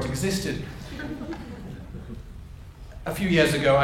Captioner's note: audience members chuckle